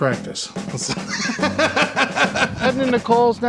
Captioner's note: laughter